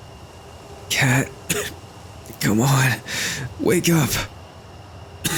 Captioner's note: coughs